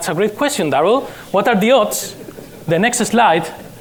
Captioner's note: background laughter